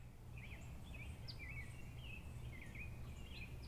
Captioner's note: birds chirping